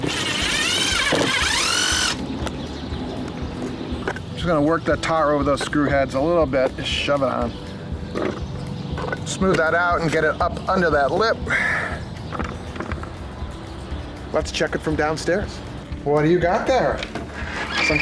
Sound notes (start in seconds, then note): 0.0 screwdriver whirring; 9.0 scraping